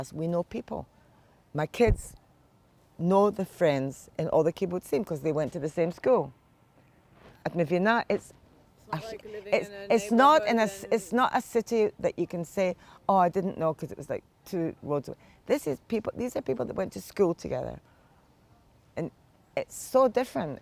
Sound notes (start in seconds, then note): 7.2 hebrew